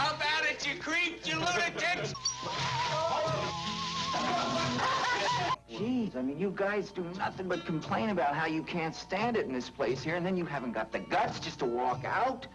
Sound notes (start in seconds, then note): 3.2 laughs; 4.2 men shouting